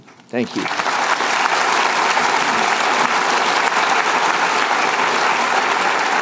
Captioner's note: applause